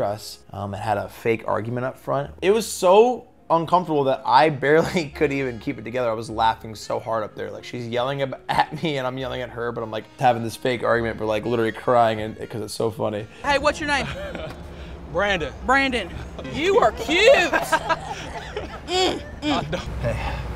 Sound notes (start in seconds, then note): 13.8 laughing; 16.8 crowd laughing